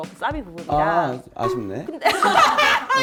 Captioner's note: ding!